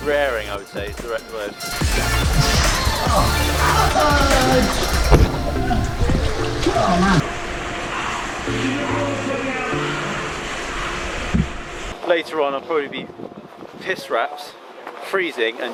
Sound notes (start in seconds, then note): 3.0 groaning